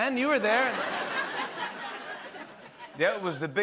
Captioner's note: laughter